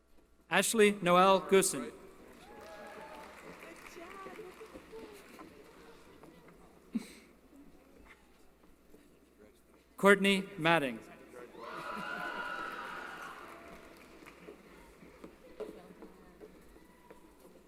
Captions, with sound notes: Ashley Noel Guzon. [ Applause ] Courtney Madding. [ Cheering ]